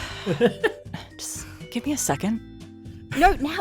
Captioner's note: sighs